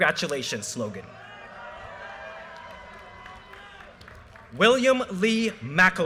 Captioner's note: audience cheers and applause